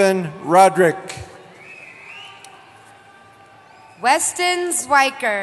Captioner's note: cheering